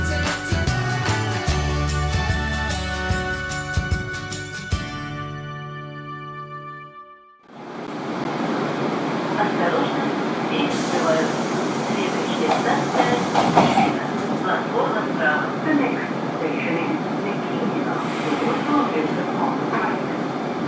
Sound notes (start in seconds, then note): 15.1 closing doors